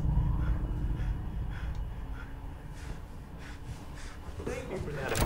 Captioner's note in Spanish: Respirando profundamente